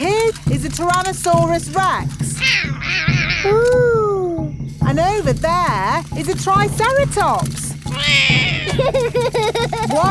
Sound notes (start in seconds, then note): 2.4 roaring; 7.9 roars; 7.9 laughs